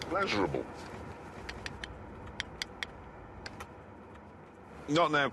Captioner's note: tapping